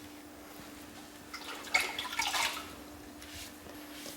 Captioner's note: splashing